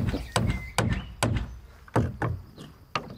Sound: birdsong

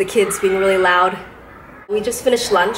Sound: kid outside screaming

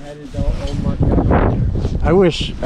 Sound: wind drowns out

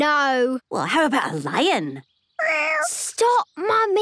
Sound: small meow

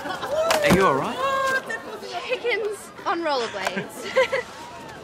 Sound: laughter; chuckles

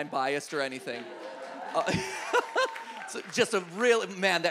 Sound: audience applauds

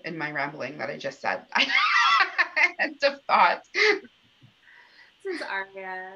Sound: laughter

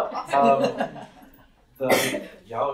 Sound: laughter

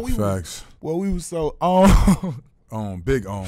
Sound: laughing

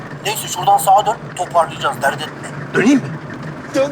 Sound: Serdar Gps sound

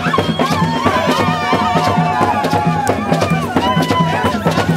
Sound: crowd; drums Beat

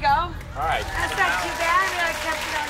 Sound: audience clapping

